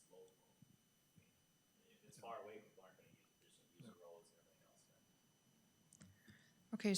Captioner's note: faintly speaking